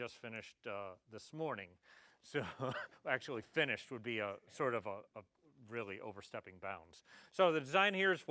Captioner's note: laugh